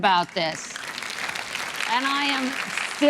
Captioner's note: audience applauding